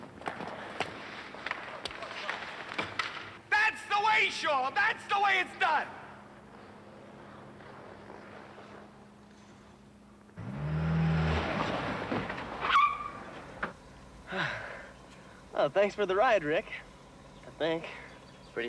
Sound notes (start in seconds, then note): 10.3 engine revs; 12.2 tires squeal